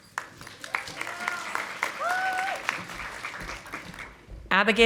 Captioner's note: audience applauding